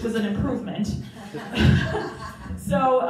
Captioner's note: crowd Laughing